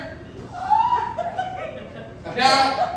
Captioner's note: audience laughing